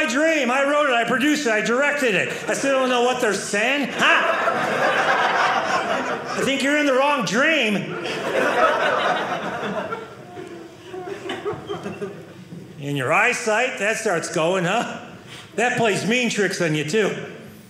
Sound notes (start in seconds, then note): 3.8 audience laughing